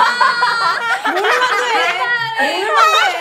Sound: laughing

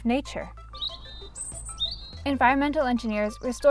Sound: birds chirping

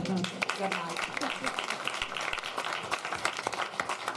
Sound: applause

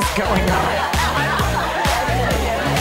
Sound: laughing; techno music

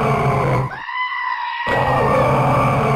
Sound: screams

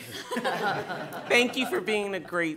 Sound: laughing

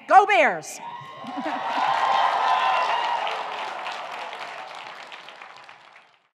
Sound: audience cheering; audience applauding

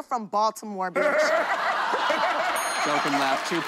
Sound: laughter

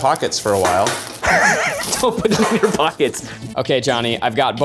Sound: laughs

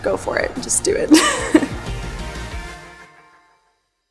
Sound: laughing

